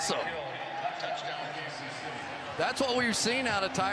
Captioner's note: pa announcement